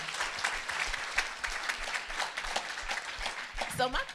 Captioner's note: audience applauding